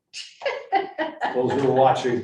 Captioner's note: laughing